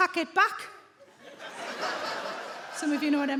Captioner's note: audience laughing